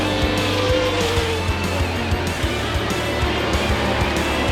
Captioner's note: rock music playing; engine roaring